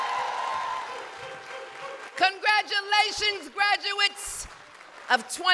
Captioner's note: applause